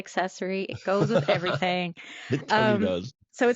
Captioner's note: laughs